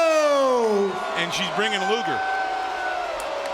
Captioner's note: crowd cheering